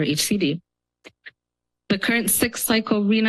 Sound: pause

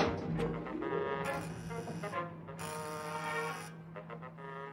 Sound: alarm sound

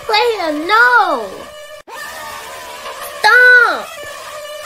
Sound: more bald screams; even more bald screams

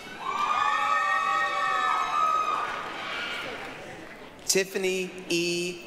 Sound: applause, cheering

